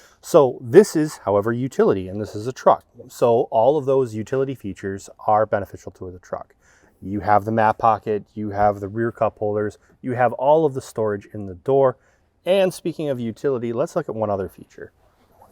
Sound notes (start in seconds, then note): none